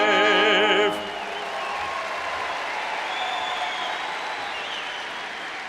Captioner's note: cheers and applauds